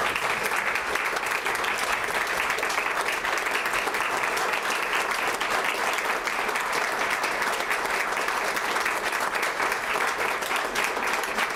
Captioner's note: applause